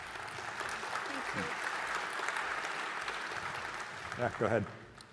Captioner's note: applause